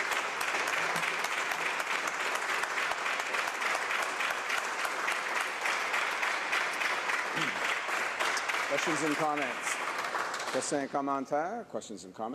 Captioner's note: applause